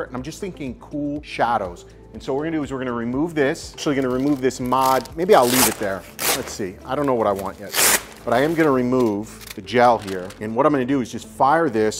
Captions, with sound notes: And I'm just thinking cool shadows. And so what we're gonna do is we're gonna remove this. So you're gonna remove this mod. Maybe I'll leave it there. Let's see. I don't know what I want yet. (Velcro ripping apart) But I am gonna remove the gel here. And what I'm gonna do is just fire this